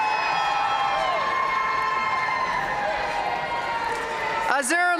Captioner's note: audience cheering and applauding